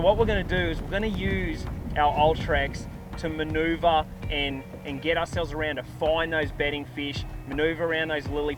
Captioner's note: trolling motor